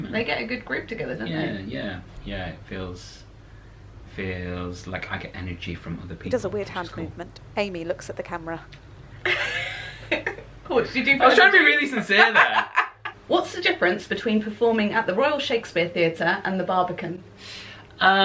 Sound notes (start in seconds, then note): 8.8 laughter